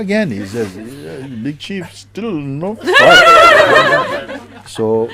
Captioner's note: laughter